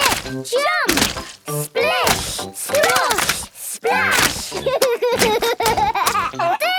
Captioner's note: laughs